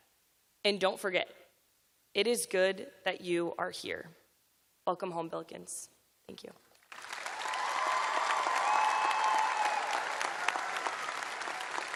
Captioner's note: cheers and applause